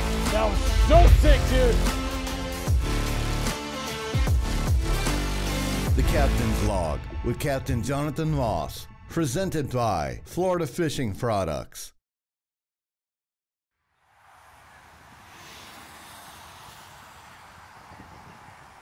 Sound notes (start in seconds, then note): 2.3 intense music continues; 14.2 car engine revving